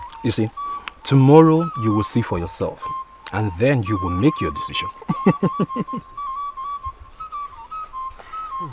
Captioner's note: laughter